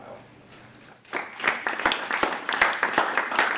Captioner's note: applause